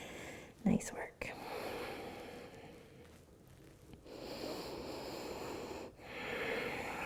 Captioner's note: breathing; deep breathing